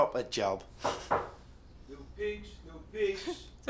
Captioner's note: knocking